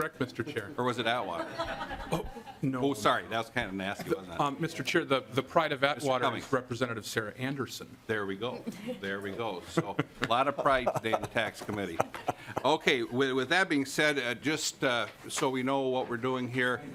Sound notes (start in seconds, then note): 9.8 laughing